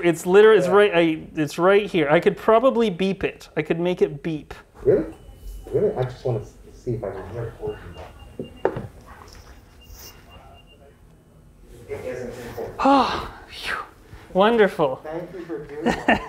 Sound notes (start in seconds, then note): 9.8 beep; 15.8 laughs